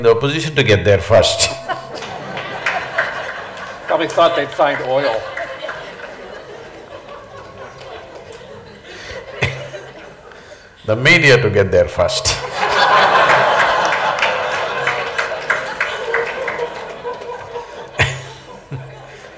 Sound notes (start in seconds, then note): 1.1 laughter/Applause; 12.4 laughter/Applause